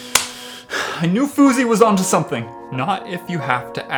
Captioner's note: sigh